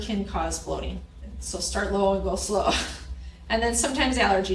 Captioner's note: laughs